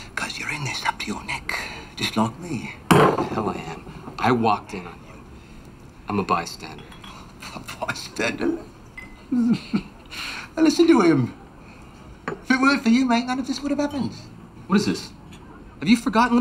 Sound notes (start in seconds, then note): 9.3 chuckles